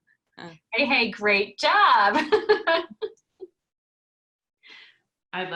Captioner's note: laughing